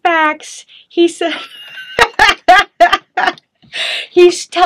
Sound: chuckling

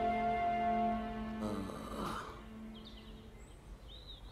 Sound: groans

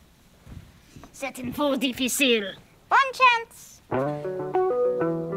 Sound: speaking in french

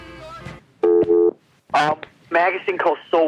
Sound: phone tone buzzing

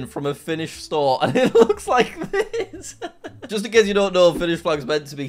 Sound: laughs

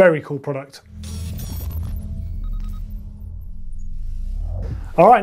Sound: digital beeping

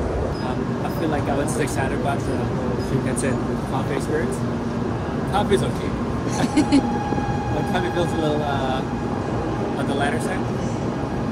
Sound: laughter

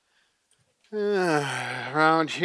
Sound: sighs heavily

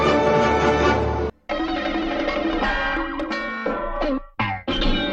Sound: cartoon sounds resuming

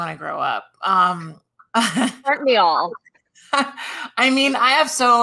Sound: chuckles

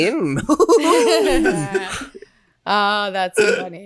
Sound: laughs

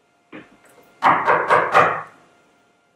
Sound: knocks

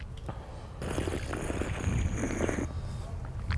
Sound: slurps

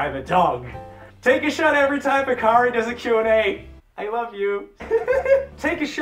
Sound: laughs

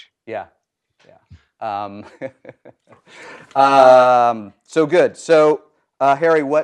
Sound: laugh

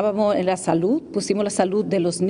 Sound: speaking spanish

